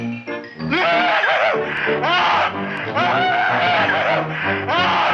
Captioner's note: Wilbur screaming